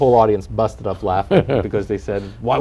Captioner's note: laughter